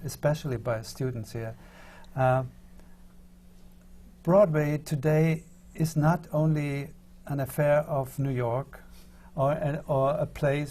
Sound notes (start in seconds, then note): none